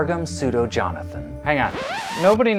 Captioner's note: record scratch